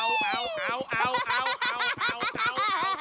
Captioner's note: laughing; chuckles